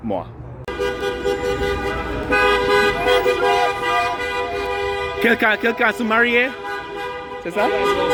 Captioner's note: shouting and car horns' honking